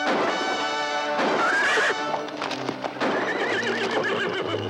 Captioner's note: horse neighing; guns firing